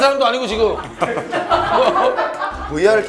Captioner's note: hahaha